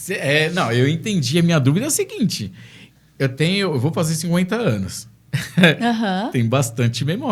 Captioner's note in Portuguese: risadas